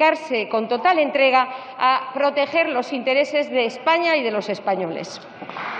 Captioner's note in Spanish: Aplausos